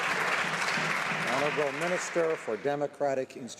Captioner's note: some Applause